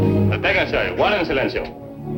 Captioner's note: speaking spanish